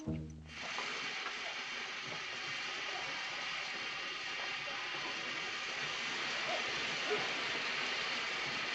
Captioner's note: train chugging